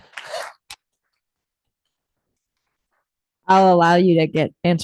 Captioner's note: audience applauding